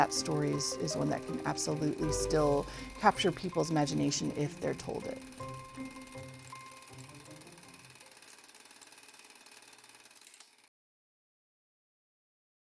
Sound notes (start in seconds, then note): 4.9 bright music; 4.9 projector whirring; 9.7 projector clicks